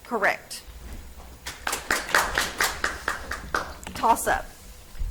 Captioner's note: audience applauds